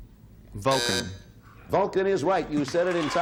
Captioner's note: buzzer sounds